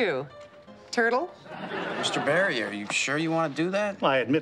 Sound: audience laughing

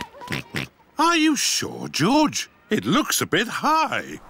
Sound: oinks

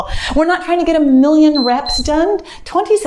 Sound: timer beeps

